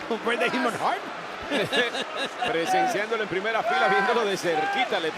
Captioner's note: laugh